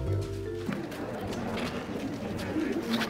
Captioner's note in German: Stimmengewirr